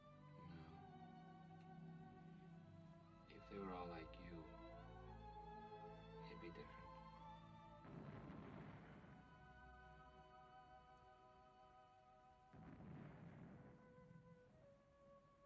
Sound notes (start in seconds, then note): 7.8 explosions